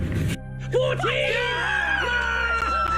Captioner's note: assorted screaming